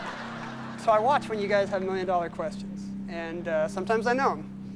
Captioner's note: laughter